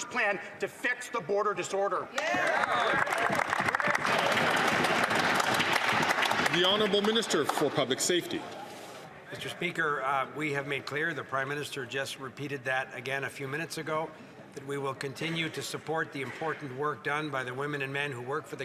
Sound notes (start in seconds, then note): 6.4 some Applause